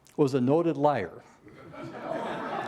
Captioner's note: laughter